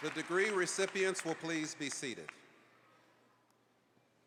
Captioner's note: applause